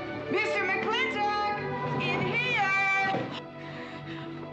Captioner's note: yelling